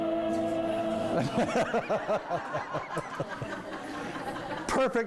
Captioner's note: dramatic music; laughing